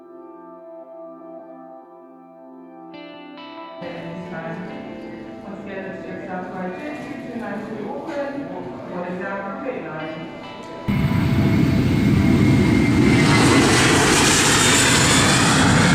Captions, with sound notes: (Airport Announcements) something something something Auckland. Boarding now from Gate 9 (Not very realistic Jet Noises)